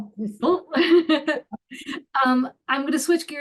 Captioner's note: laughing